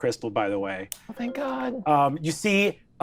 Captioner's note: message notification chimes